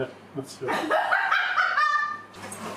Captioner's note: laughing